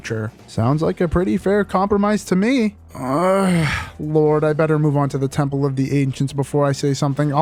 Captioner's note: groan